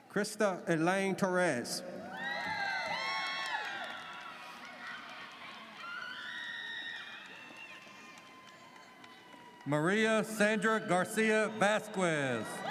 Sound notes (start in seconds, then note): 2.0 audience cheers